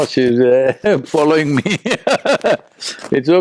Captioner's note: laughs